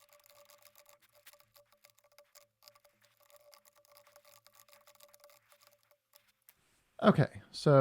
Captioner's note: typing